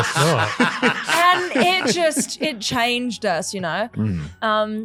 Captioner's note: laughing